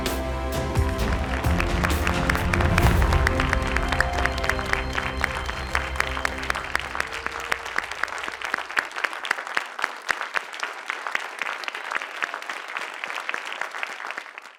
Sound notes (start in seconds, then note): 0.0 pensive music continues; 5.3 audience and competitors applauding